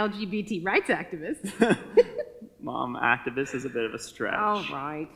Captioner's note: chuckles